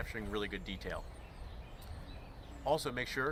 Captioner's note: birds chirping